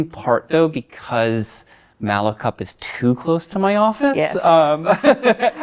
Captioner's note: laughs